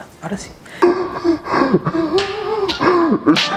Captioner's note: demonic laugh